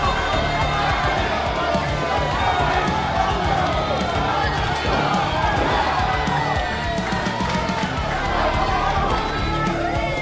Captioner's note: crowd steadily cheering both ladies on